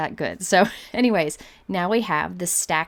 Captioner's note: laughs